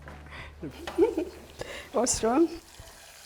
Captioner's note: laughter